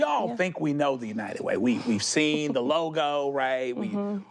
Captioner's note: chuckles